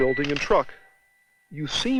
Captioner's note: camera shutter clicks